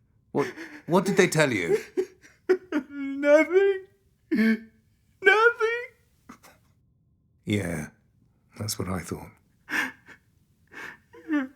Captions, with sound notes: Well, what did they tell you? Nothing. [Ridge crying] Nothing. [Ridge crying] Yeah. That's what I thought.